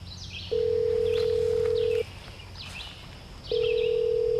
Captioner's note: phone rings